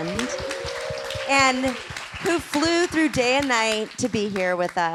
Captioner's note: applause